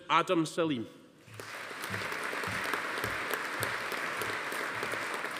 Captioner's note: audience applauding